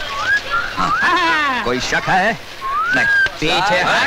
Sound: whistling; whistling

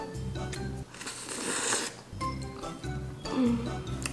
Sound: slurping

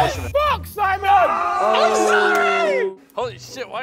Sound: groaning and booing

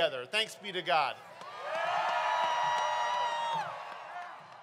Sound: crowd cheering

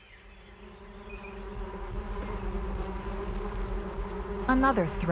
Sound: bees buzzing

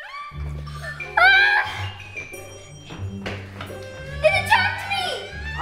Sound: Lisa screaming

